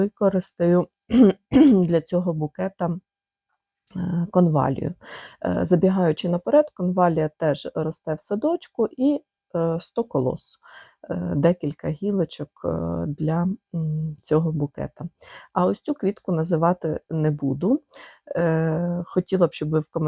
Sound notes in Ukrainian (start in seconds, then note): 1.1 прочищення горла